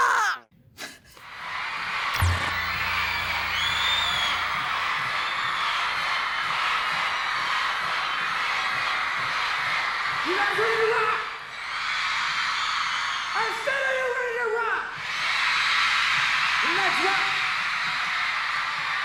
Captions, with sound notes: (crowd screams) - [Crowd] Hanson! Hanson! Hanson! Hanson! Hanson! Hanson! Hanson! Hanson! - You guys ready to rock? (crowd screams) I said are you ready to rock? (crowd screams) Let's rock.